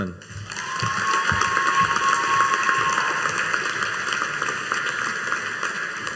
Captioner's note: audience cheering and applauding